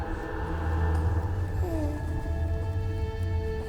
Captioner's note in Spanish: arrullo del bebé